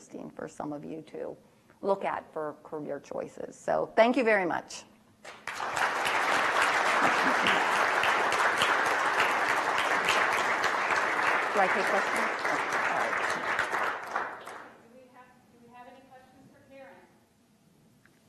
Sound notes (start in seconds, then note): 5.4 applause; 14.5 voiceover